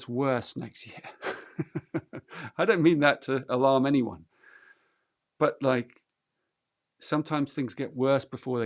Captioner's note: laughs